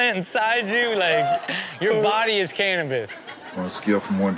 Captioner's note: audience laughs